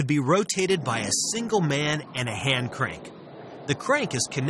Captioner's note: grinding noise